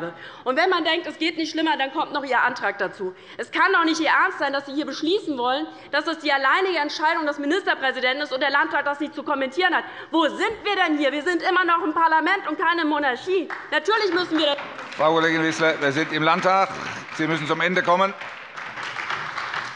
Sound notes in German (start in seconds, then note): 13.4 Beifall bei der LINKEN und der SPD